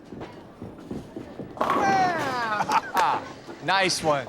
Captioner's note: laughs